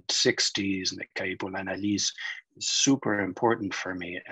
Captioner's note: speaking in foreign language